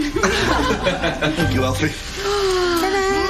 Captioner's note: Râsete